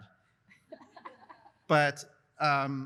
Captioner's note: laughs